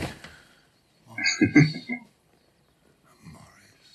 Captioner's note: chuckling